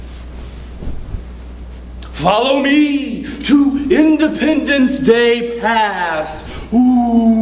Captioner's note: spooky voice